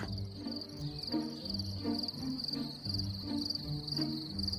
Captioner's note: crickets chirping